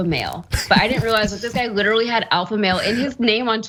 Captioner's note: laugh